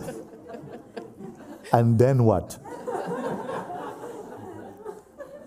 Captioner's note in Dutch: gelach